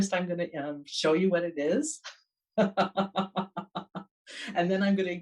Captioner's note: laughs